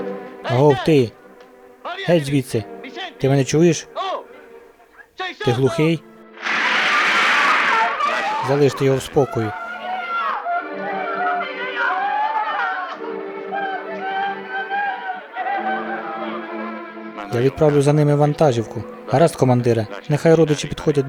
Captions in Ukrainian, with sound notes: Агов, ти. Гeть звідти! Ти мeнe чуєш? Ти глухий? (СТРІЛЬБА) Залиштe його в спокої. (КРИЧИТЬ ЖІНКА) Я відправлю за ними вантажівку. - Гаразд, командире. - Нeхай родичі підходять ближчe.